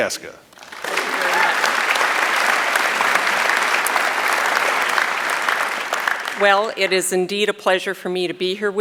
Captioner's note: applause